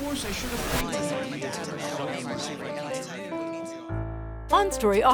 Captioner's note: multiple voices chattering